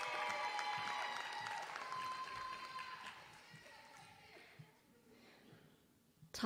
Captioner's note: applause